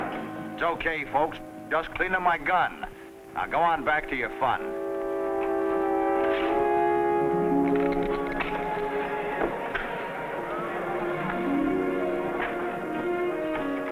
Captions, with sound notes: - It's okay, folks, just cleaning my gun. Now go on back to your fun. (gentle music) (people chattering)